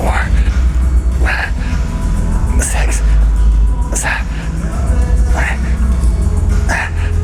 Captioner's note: grunts